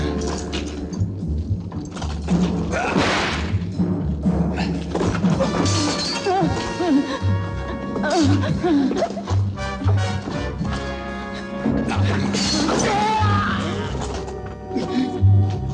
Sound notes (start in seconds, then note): 3.0 whip cracking; 6.4 whimpering; 13.5 gagging